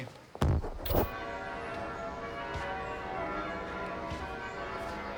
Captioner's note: bells ringing